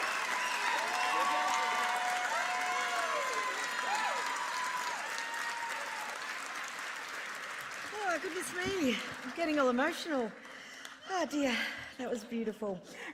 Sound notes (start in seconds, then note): 8.9 applause